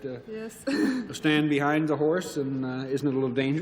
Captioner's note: chuckles